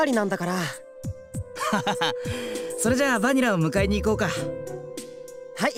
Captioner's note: laugh